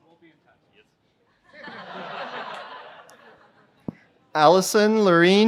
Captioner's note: laughter